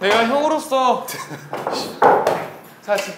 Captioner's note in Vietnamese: Cười